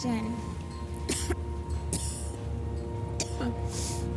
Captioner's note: coughing